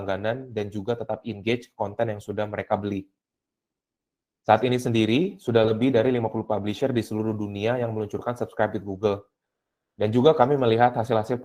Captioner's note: speaking indonesian